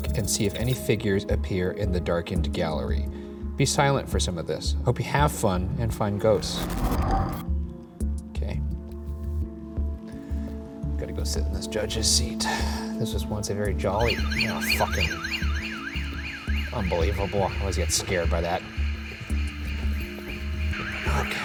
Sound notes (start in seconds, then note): 5.6 eerie dramatic music; 14.1 alarm wailing; 18.8 alarm continues wailing